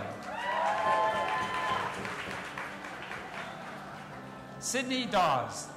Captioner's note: audience applauding and cheering